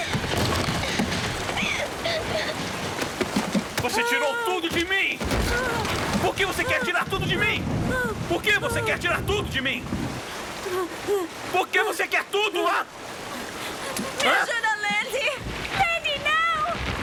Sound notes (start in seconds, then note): 1.6 crying